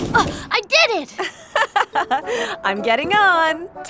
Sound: laughs

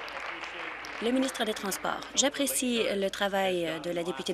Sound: applause

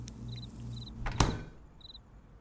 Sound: fridge door closes

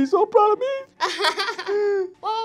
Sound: laughs

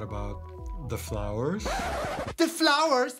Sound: record scratch

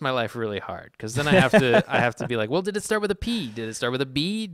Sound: laughs

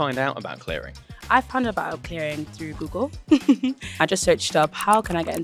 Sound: laughs

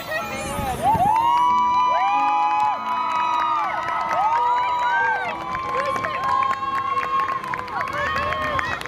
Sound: people screams

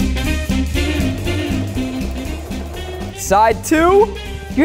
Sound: sewing machine whirring

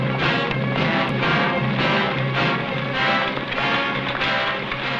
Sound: horse hooves pattering

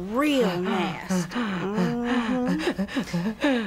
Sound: panting heavily

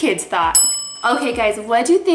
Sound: bell dings

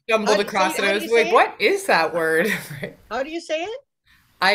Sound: laughs

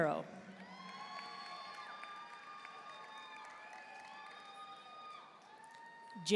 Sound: audience cheering and applauding

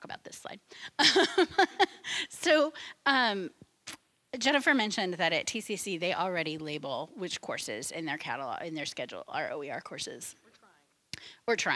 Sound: laughing

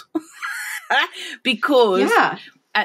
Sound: laughing

